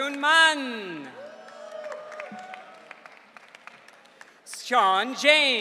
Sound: audience cheering

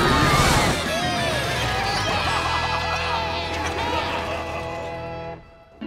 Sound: cheering

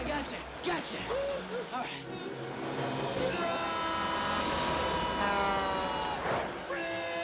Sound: both Screaming, Horn Honks

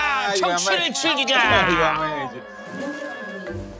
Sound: building up energy with a shout

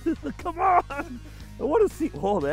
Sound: laughing

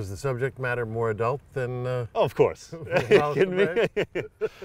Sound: laughs

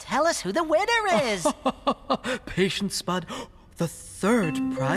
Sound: chuckling

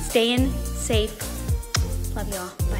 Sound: kiss sound

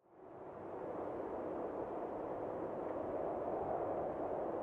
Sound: wind howling

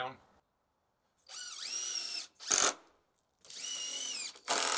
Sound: drill whirring

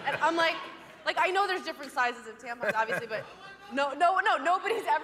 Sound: laughter

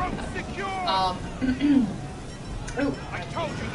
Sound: clears throat

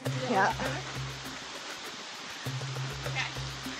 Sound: flowing water

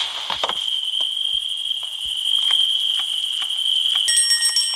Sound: crickets chirping; bell tinkling

